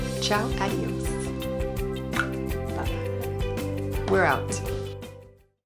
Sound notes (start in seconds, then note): 2.0 tongue clicking